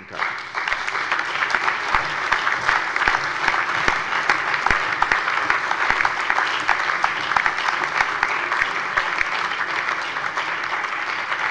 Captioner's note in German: Allgemeiner Beifall